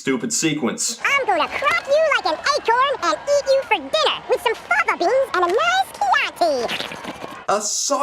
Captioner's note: slurps